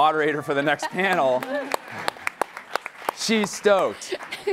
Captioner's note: laughing and applauding